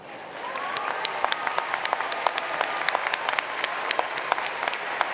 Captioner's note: applause